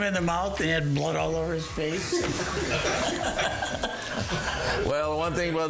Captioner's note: all laughing